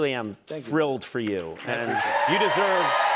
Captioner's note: cheers and applause